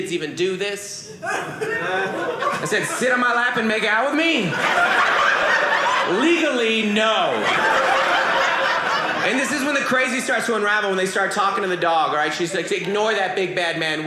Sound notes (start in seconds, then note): 4.2 audience laughing; 7.1 audience laughing